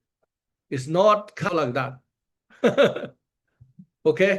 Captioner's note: laughs